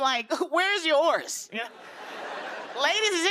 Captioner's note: laughter